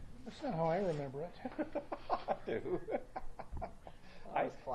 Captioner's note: laughs